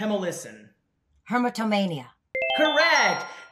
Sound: winning ring

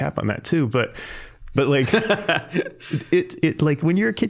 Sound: laughing

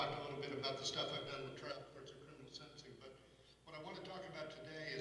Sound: speaking off mic

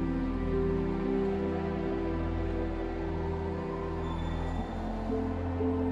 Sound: gentle music; siren wails

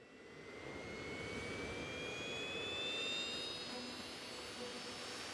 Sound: engine whirring

